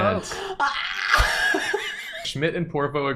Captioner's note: noise of disbelief